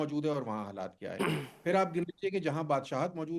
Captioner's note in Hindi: गला साफ़ करने की आवाज़